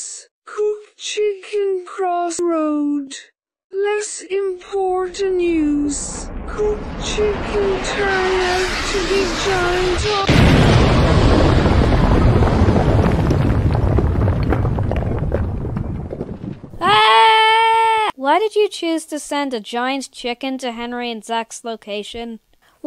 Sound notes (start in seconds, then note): 10.1 explosion